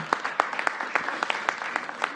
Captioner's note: applause